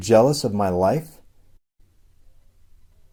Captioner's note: silence